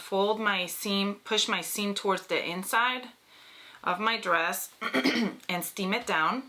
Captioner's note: clears throat